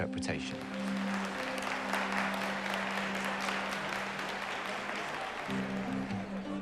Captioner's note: applause